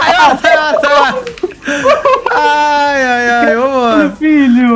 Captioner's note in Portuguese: risos